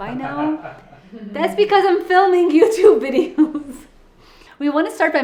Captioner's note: laughing